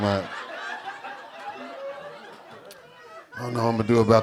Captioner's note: audience laughing